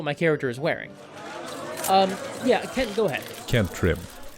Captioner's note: crowd of reporters shouting